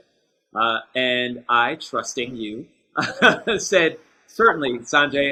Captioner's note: chuckles